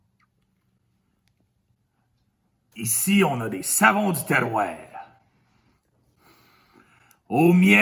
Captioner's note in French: sniffe agréablement